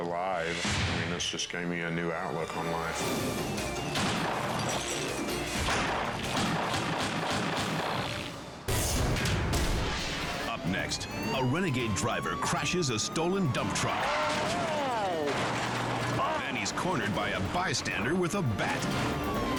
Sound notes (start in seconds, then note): 3.8 gunshot fires; 5.7 gunshots firing